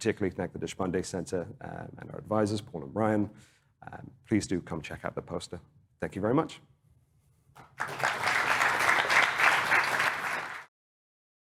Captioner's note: applause